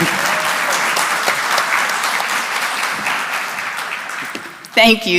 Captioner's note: applause